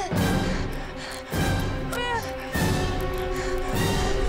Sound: grunting; grunting

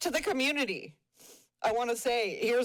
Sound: sniffles

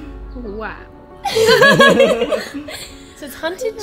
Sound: and sister laughs

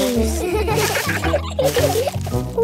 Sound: laughter

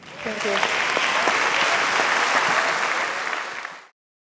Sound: audience clapping

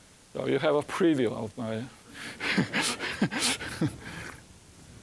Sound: laughing

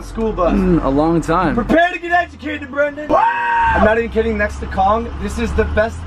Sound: sexual moaning

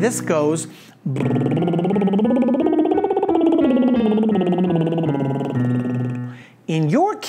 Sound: soft music; soft music continues; trilling

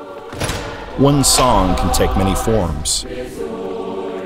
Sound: chorus singing; voiceover; chorus singing

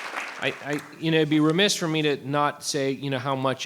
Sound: applause

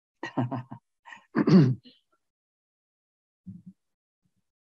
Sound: Ambassador Hills chuckling; clears throat

